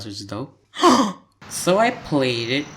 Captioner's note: gasp